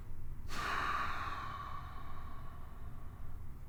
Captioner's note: Victor sighs